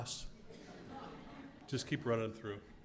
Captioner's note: laugh